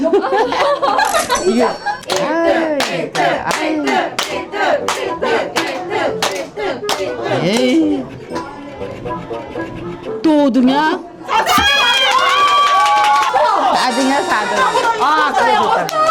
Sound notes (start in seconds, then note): 8.2 scratching again and again